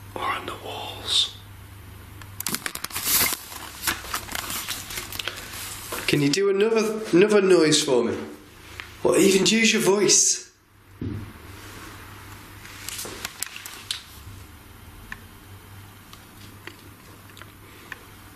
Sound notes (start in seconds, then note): none